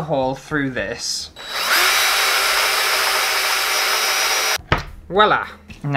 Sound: drill Sounds

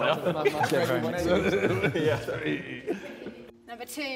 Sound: JJ laughing

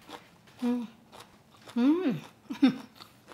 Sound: laughs

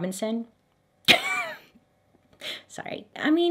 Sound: coughs

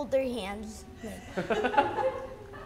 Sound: laughing

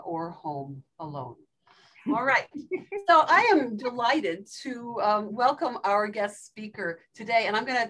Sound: laugh

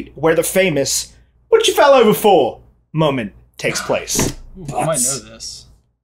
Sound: British accent

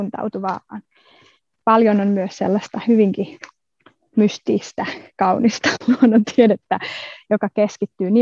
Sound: laughs

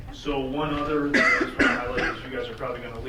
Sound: person coughing drowns out speaker

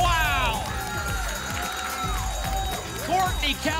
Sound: applause and cheering

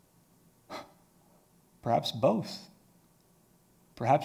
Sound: sharply exhales

